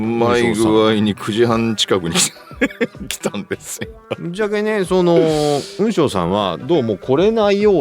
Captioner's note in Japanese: 笑い